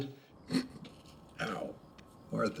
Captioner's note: laughs